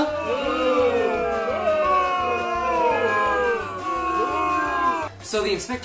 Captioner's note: booing noises